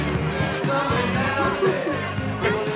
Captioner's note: general chatter